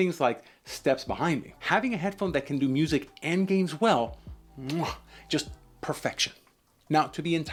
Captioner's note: chef’s kiss